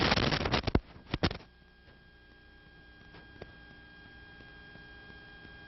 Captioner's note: losing audio momentarily